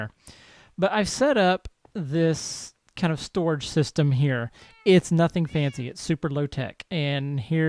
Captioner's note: cats meowing